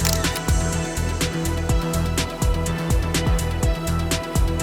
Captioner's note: camera clicks